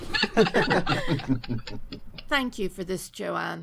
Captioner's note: laughter